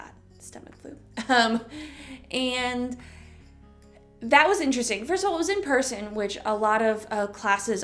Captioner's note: chuckle